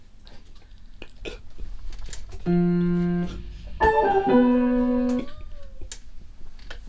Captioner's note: piano playing; sobs